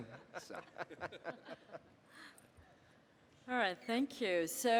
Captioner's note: panelists laughing